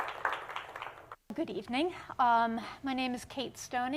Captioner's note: applause